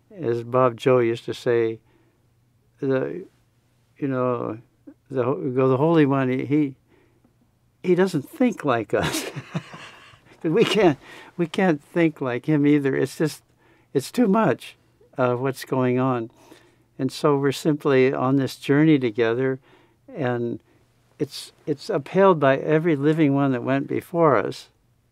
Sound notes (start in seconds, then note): 9.0 laughs